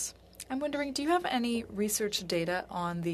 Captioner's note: speaking French